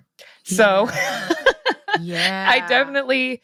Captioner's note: laughs